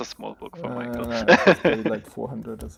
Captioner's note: laughing